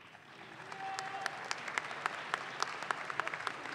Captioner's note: audience claps